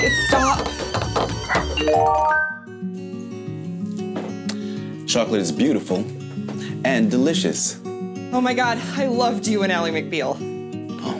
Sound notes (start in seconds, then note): 1.5 phone chiming; 2.8 peaceful music